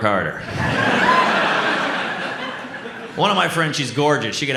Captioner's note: audience laughs